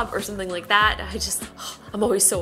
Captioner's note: exhales